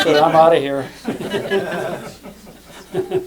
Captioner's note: laughter